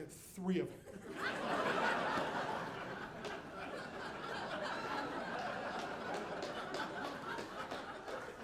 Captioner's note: audience laughing